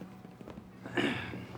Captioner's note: Bridges clears throat